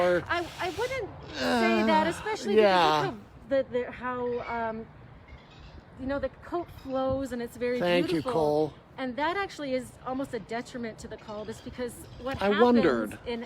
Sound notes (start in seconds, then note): 1.4 grunts